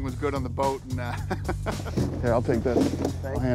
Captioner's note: chuckles